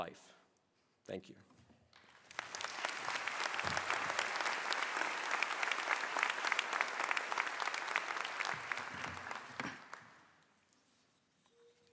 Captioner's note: applause